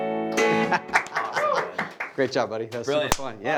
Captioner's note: laughing; applauding